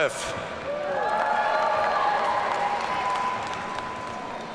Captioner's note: audience cheering